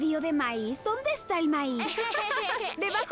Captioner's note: laughter